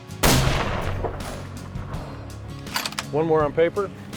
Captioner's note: gunshot